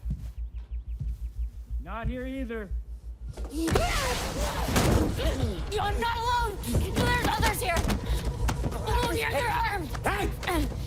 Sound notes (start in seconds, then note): 3.5 shouting